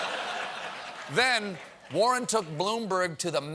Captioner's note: laughter